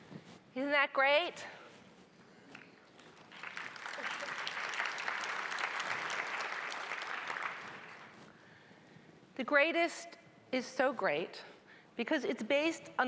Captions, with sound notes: - Isn't that great? (audience applauding) "The Greatest" is so great because it's based